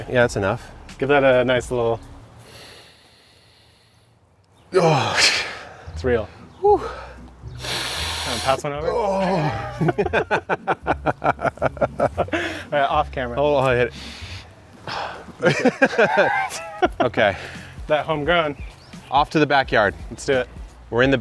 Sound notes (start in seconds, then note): 2.3 sniffing deeply; 7.4 sniffing deeply; 9.5 laughter; 13.8 sniffing deeply; 15.3 laughter